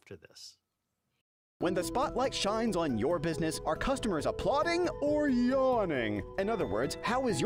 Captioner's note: voiceover